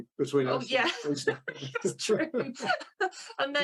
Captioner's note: laughs